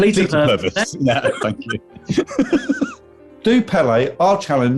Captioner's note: laughing